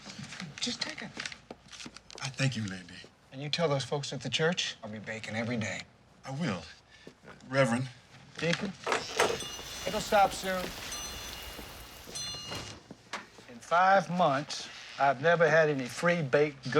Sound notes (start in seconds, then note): none